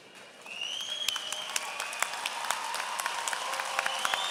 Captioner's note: applause